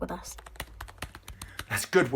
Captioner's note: keyboard clacking